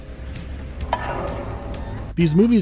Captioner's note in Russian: пок